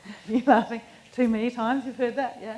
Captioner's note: laughs